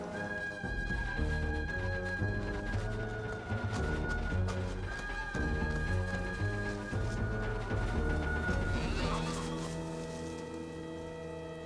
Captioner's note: grunts